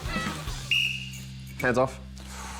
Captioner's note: blows whistle